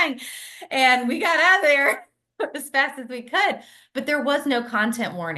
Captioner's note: laughs